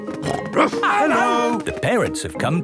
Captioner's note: snorting and barking